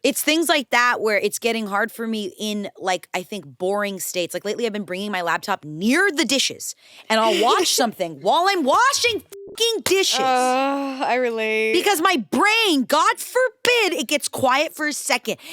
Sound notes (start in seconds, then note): 9.2 beep